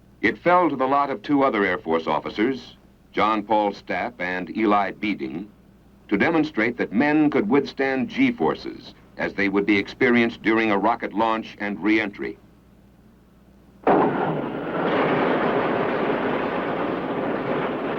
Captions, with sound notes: It fell to the lot of two other Air Force officers, John Paul Stapp and Eli Beeding, to understand that men could withstand G forces as they would be experienced during a rocket launch and reentry. (engine roaring)